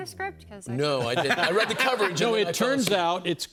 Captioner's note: laughter